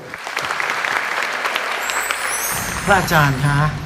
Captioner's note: clapping sound